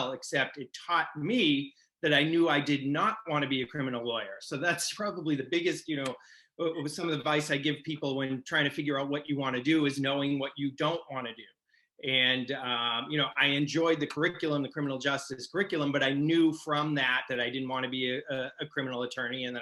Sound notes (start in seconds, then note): none